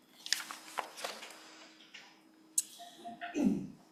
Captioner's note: papers rustle